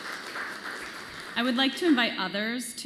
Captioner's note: applause